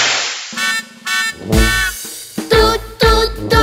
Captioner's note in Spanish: Sonido de bocina